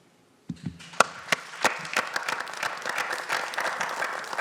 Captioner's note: audience clapping